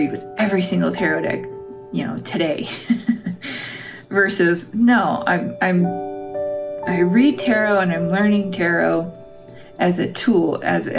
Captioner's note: laugh